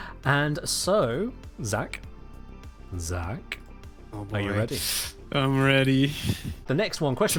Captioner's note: sharp intake